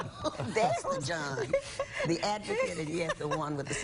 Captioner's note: laughter